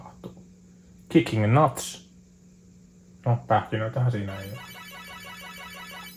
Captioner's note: micdrop